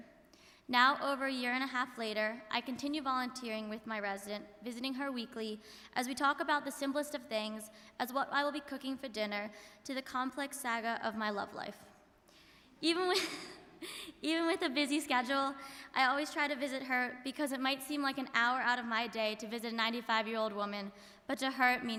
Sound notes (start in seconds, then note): 12.6 laughs